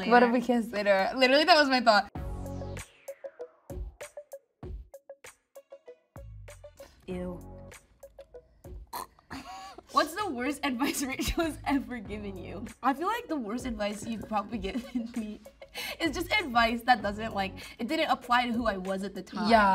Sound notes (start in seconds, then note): 2.6 funky music; 8.9 Ayo gags